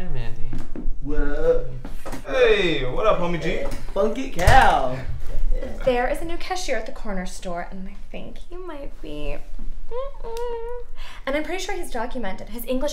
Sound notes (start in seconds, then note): 9.8 humming